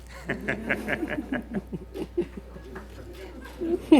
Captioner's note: laughter